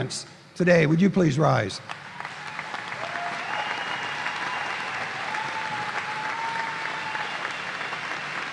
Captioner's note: applause